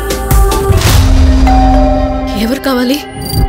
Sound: door bell rings

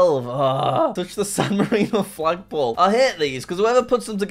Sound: groans

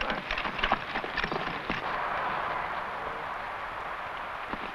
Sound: horse hooves pattering

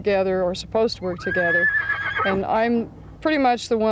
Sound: horse whinnies

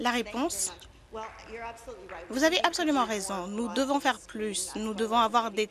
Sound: applause

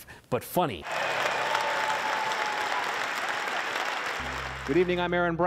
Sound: applause

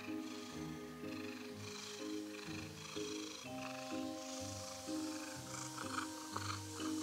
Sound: loud purring intensifies

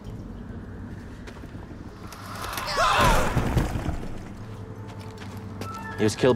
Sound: أصوات الصراخ والجدران تنهار

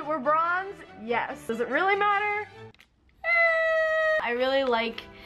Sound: squeals

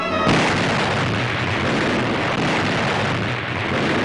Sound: heavy gun fire

